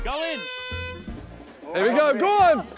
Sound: horn blowing

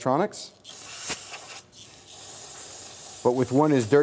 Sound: spray sound

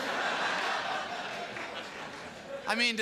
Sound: laughter and applause

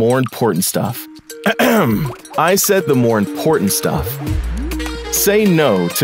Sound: ahem

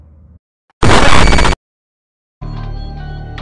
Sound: static noise

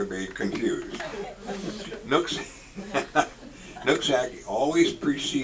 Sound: laughs

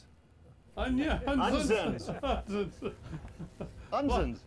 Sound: chuckling

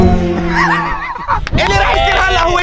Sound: laughing

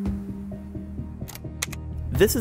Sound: slide clicks

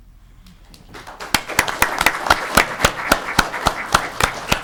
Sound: audience clapping

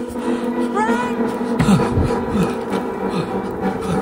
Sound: heavy breathing; dramatic music

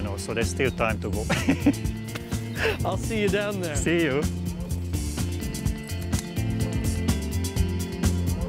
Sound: laugh

